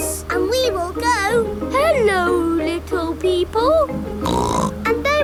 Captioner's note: snorts